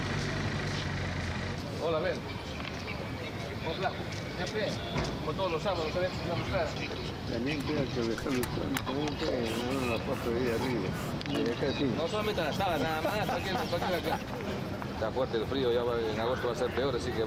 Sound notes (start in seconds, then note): 5.5 men speaking native language